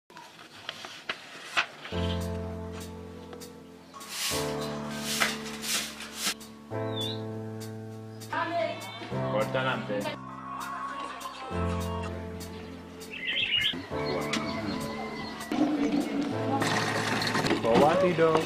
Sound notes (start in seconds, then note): 8.3 people talking; 13.2 birds chirping; 16.6 water running